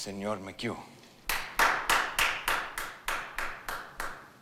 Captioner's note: Jeremy claps